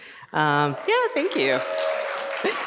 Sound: applause

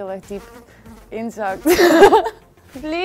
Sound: laughter

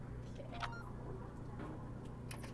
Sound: gentle beeping

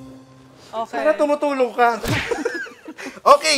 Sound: laughter

